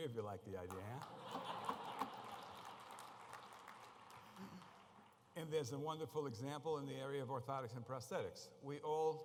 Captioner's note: muted applause; applause